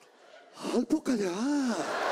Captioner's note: unintelligibly imitates Korean; audience laughter